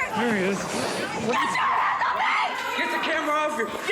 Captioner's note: screaming